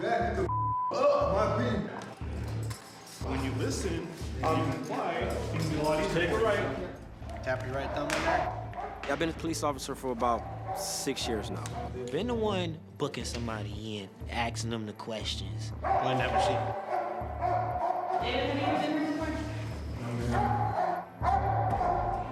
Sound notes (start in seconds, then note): 0.4 beep; 15.8 dog barking